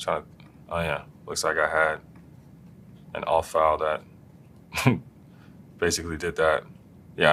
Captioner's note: laugh